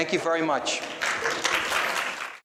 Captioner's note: applauding